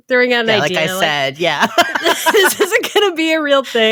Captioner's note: laughs